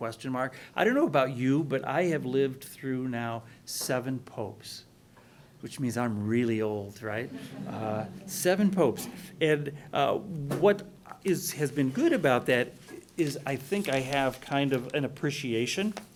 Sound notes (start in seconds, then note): 7.6 laughing